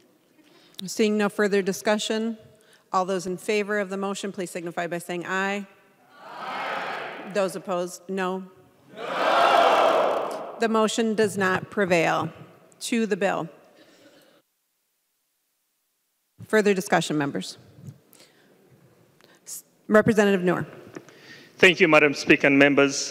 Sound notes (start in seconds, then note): 13.5 chorus of ayes